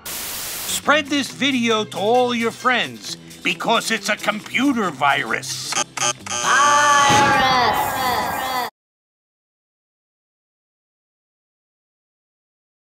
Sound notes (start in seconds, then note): 0.0 static; 5.7 buzzing; 7.8 echoing